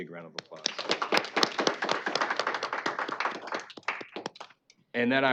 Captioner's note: applause